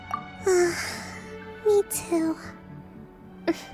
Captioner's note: sigh